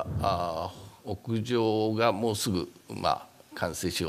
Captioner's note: speaking japanese